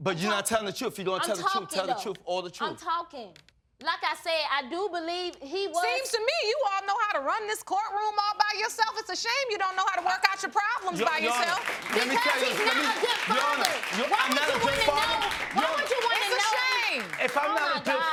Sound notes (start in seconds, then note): 10.8 audience applauding